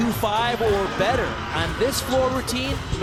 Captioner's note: audience cheering